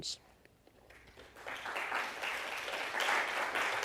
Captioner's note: applause